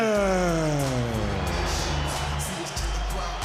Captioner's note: crowd cheering